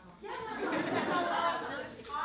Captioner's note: laughter